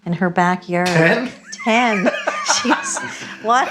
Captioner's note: laughs